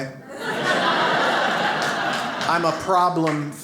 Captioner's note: audience laughs